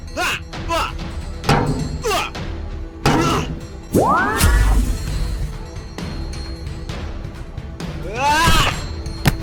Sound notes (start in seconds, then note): 0.1 fighting sounds; 3.2 mystical sound